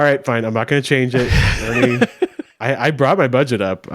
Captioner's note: laughs